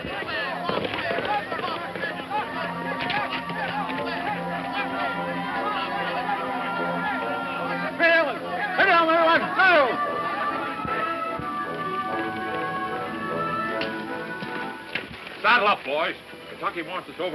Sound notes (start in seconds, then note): 6.9 speaking in foreign language